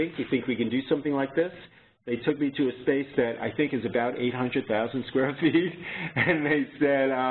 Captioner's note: chuckle